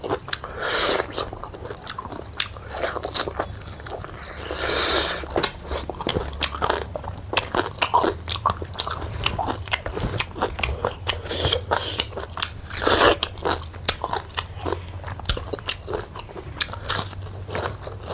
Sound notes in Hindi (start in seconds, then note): 1.4 नाक से की जाने वाली आवाज़